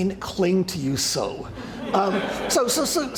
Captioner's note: laughter